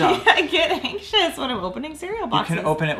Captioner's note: laughing